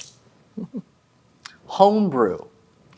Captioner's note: dice clatters; chuckles